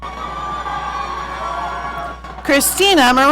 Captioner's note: audience cheering